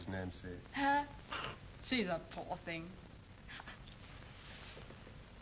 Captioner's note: scoffs